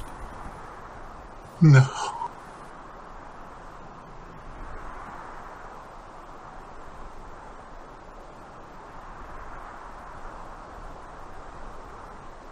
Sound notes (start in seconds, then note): 5.9 wind ... silence